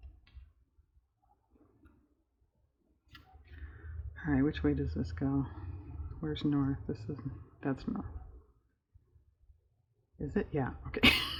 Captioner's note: laughs